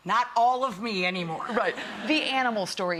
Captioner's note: audience laughs